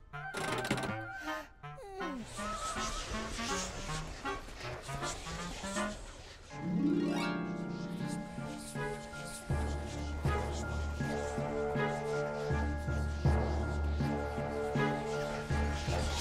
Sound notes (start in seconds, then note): 1.7 yawning; 3.6 eerie whispering